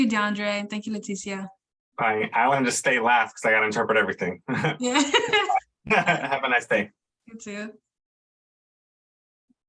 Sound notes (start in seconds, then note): 4.9 laughs